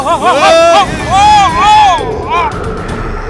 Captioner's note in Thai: ร้อง